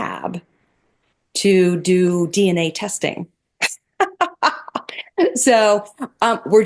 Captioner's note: laughs